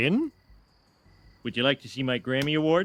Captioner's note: pregnant pause